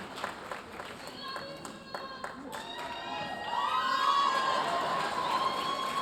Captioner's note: audience cheering; audience cheering and applauding